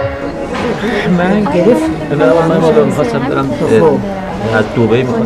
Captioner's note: farsi being spoken by almost everyone